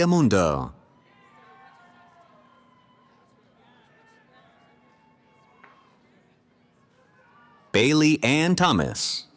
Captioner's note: cheering